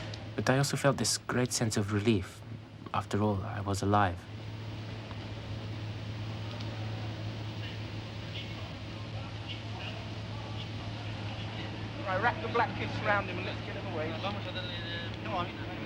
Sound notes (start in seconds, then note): 8.4 men chattering